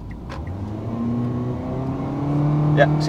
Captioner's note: engine roar sound